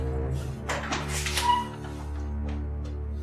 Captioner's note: opening door